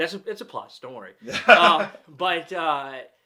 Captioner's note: laughs